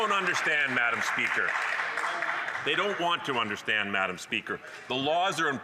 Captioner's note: some Applause